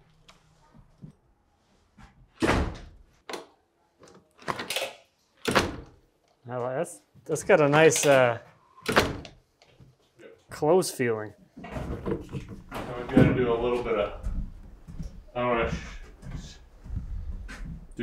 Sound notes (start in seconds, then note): 2.5 door slamming